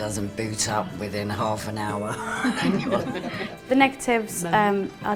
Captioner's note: laughs